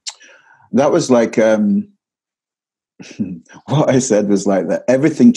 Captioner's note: chuckles